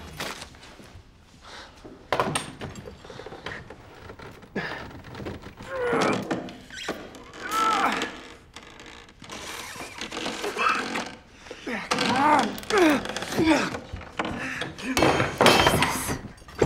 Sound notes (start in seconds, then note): 2.0 wood creaking; 5.5 money grunting; 12.1 grunting continues